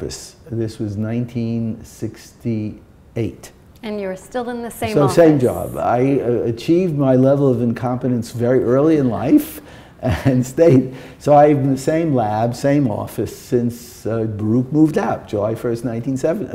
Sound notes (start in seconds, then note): 9.1 chuckle